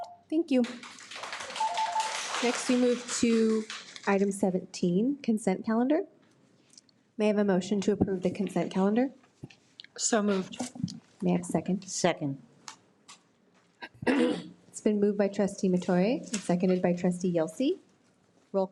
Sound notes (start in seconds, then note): 0.6 audience applauds